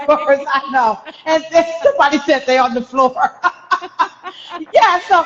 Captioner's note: laughing